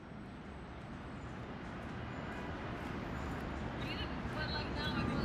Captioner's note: traffic